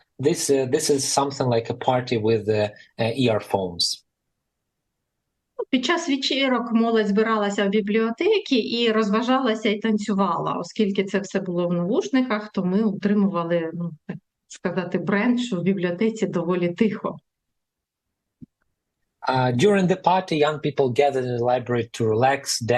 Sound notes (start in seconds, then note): 4.8 foreign language